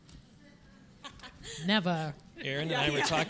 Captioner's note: both laughing